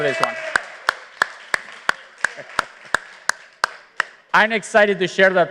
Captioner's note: applause